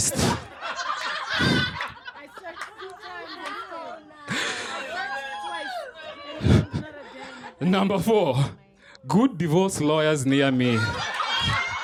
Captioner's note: laughter; laughter